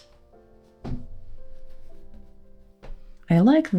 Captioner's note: thud